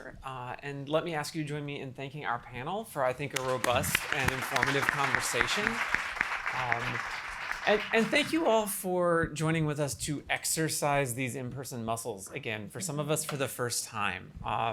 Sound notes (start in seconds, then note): 5.5 audience applauding